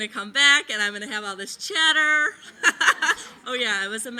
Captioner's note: laughing